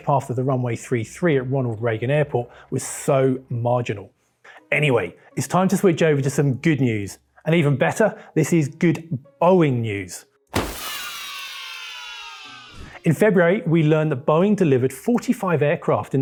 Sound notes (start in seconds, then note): 10.5 confetti pops